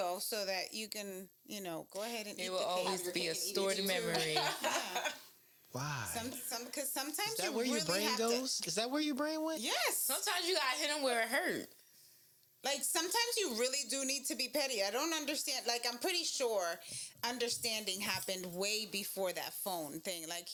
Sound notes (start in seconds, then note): 3.7 laughing